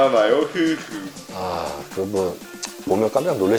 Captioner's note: sigh